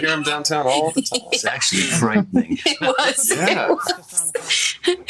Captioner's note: chuckles